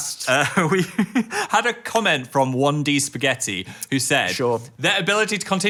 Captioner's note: laughs